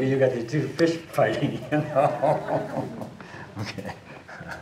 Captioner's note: chuckling